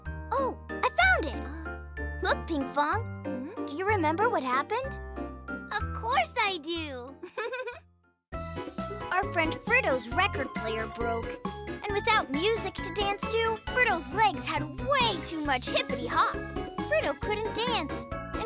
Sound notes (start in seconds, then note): 7.2 chuckles